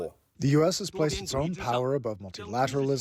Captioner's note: through translator